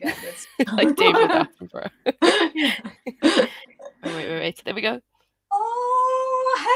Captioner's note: laughter